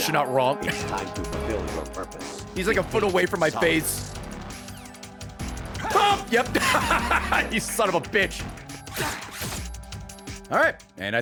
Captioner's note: laughs